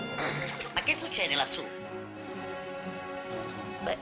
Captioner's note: laughing